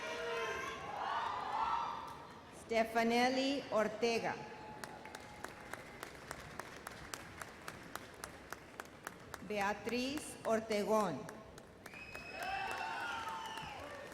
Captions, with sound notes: Stephanellie Ortega. (audience applause) Beatriz Ortegon. (audience cheers)